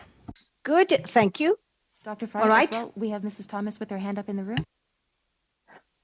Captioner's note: speaking French